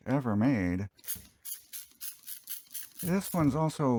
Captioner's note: spraying sounds